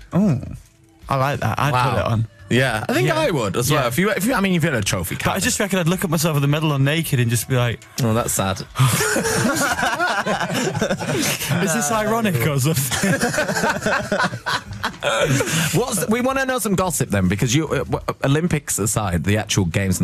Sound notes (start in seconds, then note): 10.4 sighs; 14.6 laughter